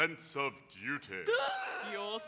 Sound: gasps

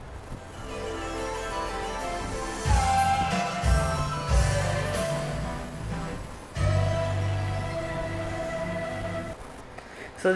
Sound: Magic Sing's ED-8000 Boot up sound

